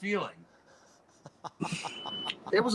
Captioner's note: laughter